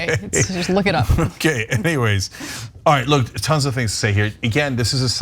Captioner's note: laugh